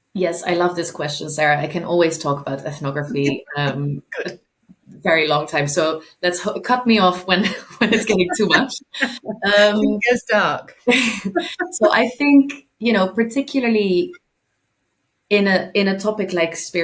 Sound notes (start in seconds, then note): 7.4 chuckling; 11.0 chuckling